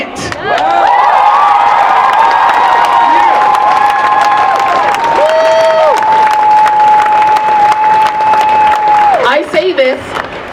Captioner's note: cheering